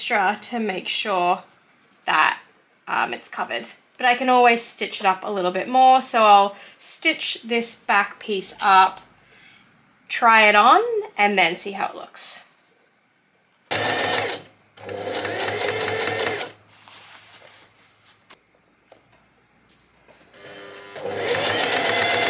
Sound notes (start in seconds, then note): 14.8 sewing machine surges; 20.3 sewing machine continues to surge